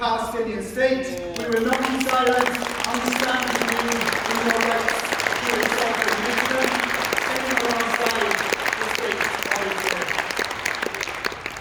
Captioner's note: applause